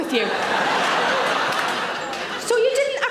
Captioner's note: audience laughing